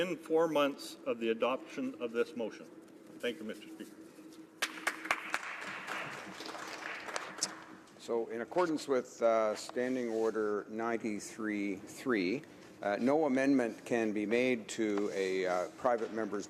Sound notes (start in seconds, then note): 8.7 some Applause